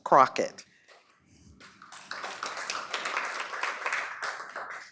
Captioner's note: applause